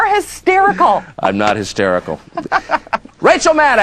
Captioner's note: laughs